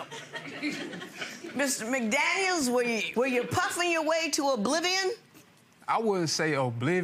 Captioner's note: audience chuckling